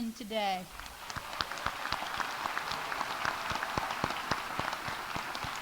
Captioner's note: audience applauding